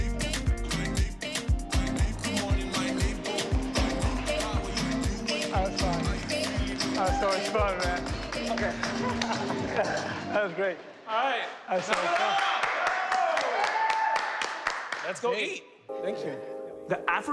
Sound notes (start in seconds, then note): 11.7 cheers and applause